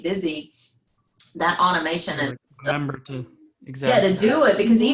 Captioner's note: faintly speaking